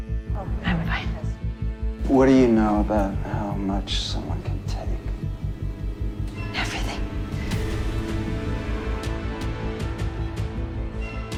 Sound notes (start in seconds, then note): 2.5 voiceover